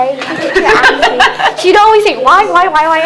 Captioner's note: laughs